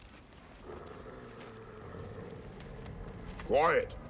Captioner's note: growl